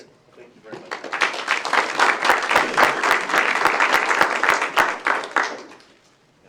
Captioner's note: applause